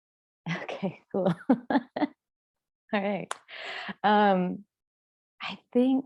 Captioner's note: laughs